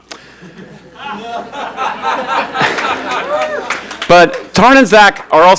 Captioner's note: audience laughs